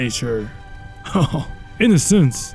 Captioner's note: laughs drunkenly